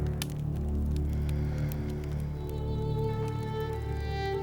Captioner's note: fire crackles